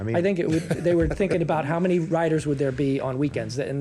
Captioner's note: laughter